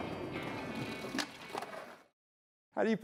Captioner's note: clattering